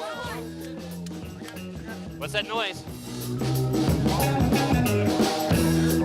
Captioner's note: cracking noises